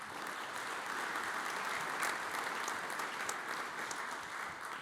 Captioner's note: audience applauds